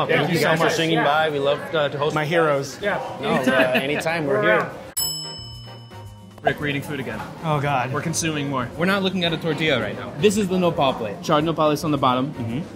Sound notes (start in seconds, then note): 4.9 bell dings